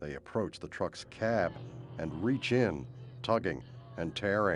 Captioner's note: groaning